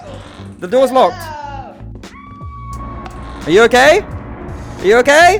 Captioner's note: sounds of screaming and gunfire